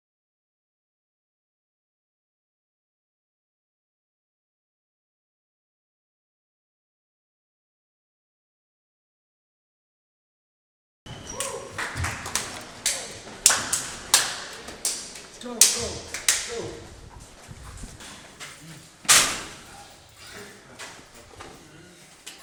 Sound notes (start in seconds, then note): 11.2 high fives, cheering; 19.0 locker slams, shuffling, shoes squeaking